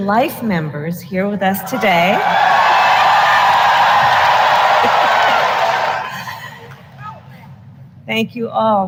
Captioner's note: applause